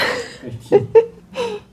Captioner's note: laughs